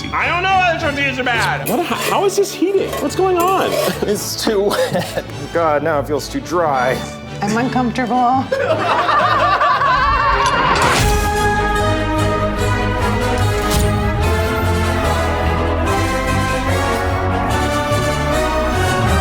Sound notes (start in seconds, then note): 8.5 everyone laughing; 10.9 dramatic orchestral music